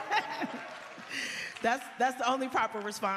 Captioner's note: laughter